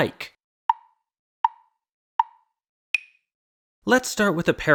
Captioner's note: tick, tick, tick, tick, tock